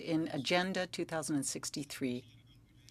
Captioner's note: speaking French